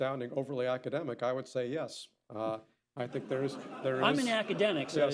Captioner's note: laughter